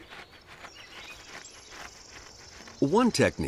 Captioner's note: gnawing